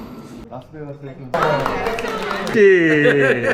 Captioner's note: clap clap clap